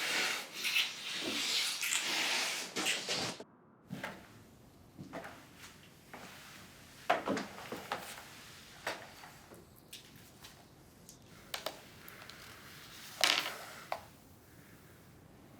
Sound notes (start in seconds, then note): 5.0 footsteps